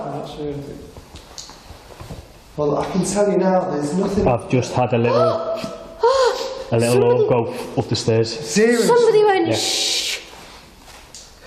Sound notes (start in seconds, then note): 6.0 gasping